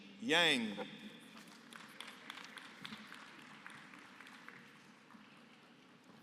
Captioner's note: applause